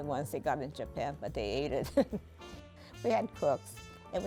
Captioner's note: laughs